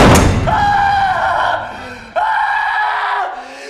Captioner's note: adam screaming